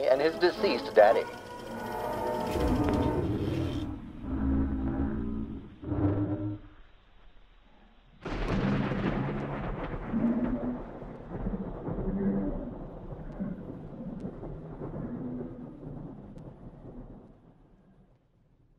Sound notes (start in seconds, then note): 8.2 thunder